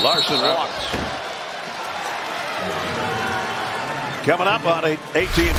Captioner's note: whistle